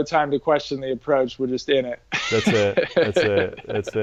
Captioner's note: laughs